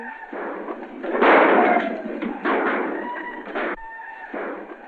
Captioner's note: yelling and gunshots